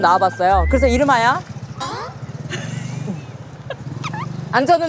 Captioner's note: vroom